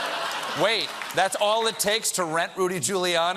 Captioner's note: laughter